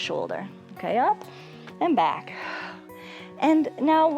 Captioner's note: exhales